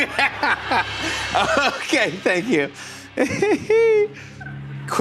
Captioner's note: laughter; laughs